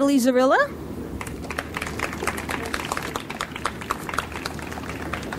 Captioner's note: audience applauds